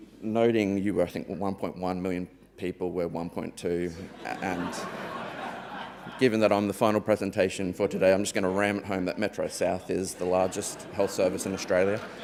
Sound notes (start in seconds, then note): 4.0 audience members laughing